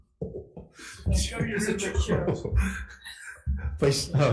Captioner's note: chair bouncing